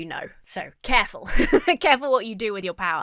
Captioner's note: laughs